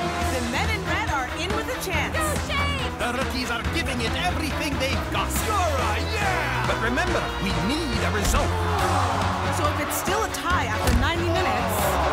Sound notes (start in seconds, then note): 8.5 groaning